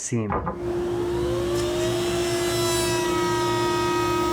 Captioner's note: whirring